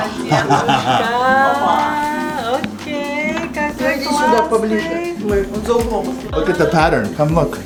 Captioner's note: speaks Russian; speaks Russian